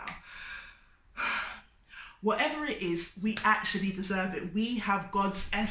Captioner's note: deep inhale and exhale